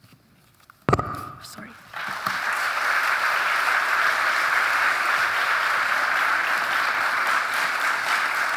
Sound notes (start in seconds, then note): 0.9 mic thudding; 1.8 audience applauding